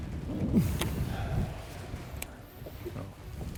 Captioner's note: sighs